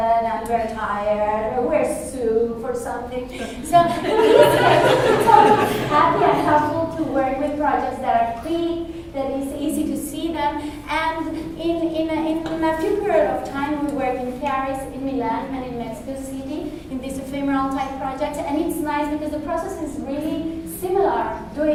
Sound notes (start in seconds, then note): 3.3 laughter